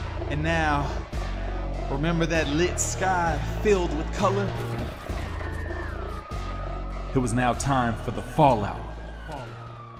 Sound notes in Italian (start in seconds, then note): 5.4 chiusura udibile delle persiane metalliche